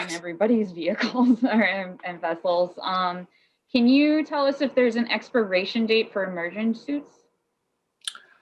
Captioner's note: chuckling